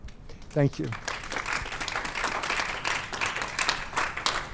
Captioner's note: applause